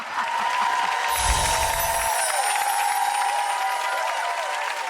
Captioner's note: crowd applausing